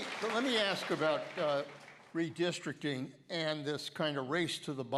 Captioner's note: applause